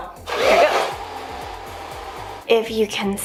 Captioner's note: blow Drying Hair With Hair Dryer